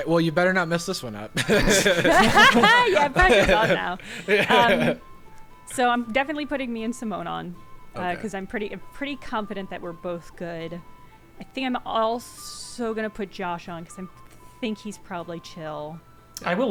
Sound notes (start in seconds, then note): 1.3 players laughing